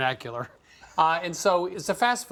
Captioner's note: chuckles